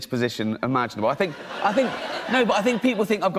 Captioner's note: laughter